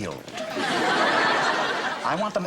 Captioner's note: audience laughter